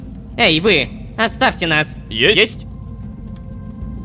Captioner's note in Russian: хором